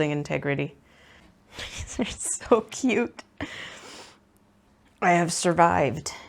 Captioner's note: laughs